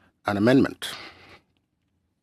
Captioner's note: speaking French